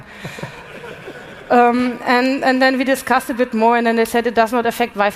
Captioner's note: laughter